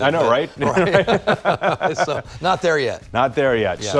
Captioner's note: both laugh